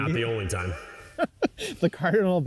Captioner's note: laughing